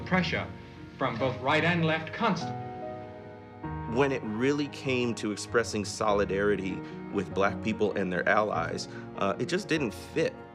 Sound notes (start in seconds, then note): none